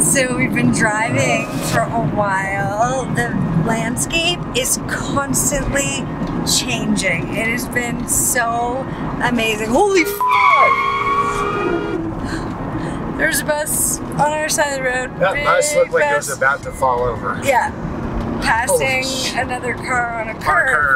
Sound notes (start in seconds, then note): 9.8 car screeches; 10.2 beep